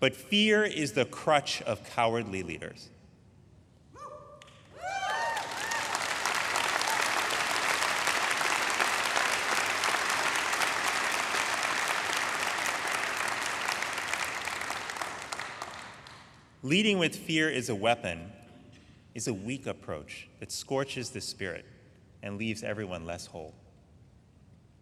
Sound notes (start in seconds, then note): 5.0 audience applauding; 5.0 audience cheering